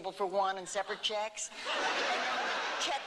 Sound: laughter

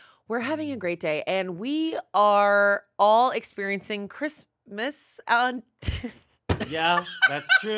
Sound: laughs

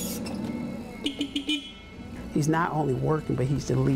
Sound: beep

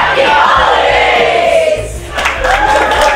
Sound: applause

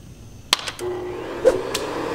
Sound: vacuum whirring; click

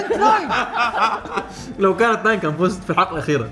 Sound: everyone laughs

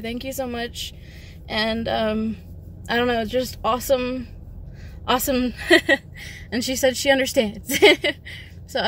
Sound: laughs

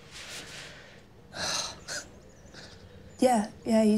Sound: sighs with relief

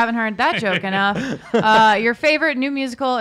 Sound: host laughs

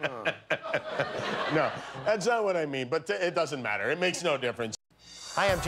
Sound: laughter

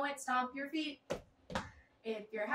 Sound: stomp

